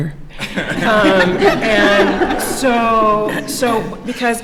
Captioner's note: laughter